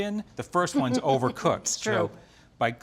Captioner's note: chuckles